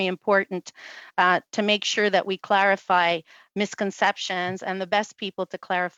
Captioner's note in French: voix de l'interprète